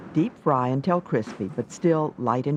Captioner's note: voiceover